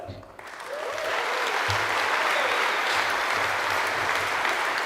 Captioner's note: audience applauds